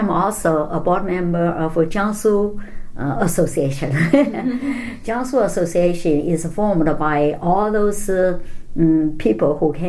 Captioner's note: all laugh